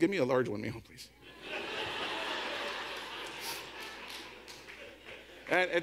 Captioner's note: audience laughs